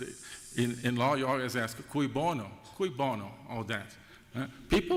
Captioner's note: spanish